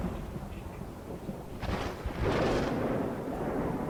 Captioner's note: thunder rumbling